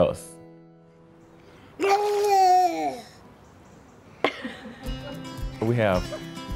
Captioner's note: silly noises and laughs